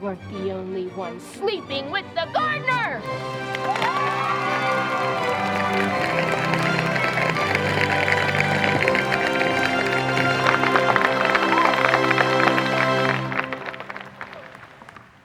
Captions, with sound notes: You weren't the only one sleeping with the gardener! (audience applauding) (audience cheering)